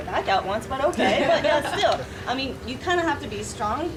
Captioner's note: audience laughing